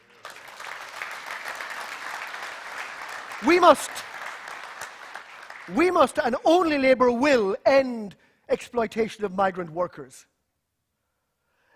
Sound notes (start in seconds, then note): 7.0 applause